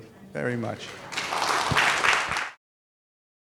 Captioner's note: audience applauding